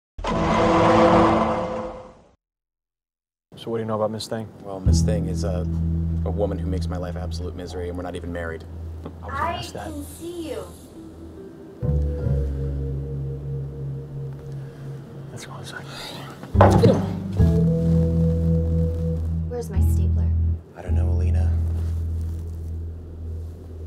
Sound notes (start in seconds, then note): 0.2 law & order sound effect; 15.8 sighs; 16.6 hits glass